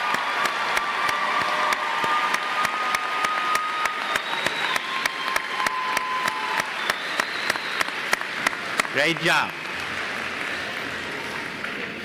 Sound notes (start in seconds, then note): 0.0 applause